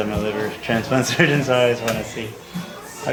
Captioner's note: chuckles